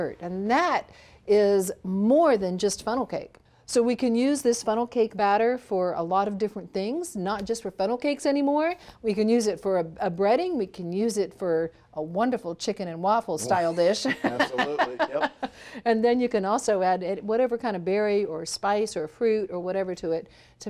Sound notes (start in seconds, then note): 13.4 laughs